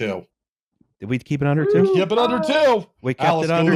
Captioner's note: singsong